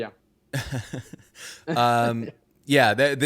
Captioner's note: laughing